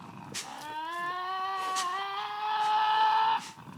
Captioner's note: growling